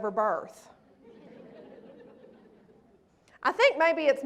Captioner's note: laughter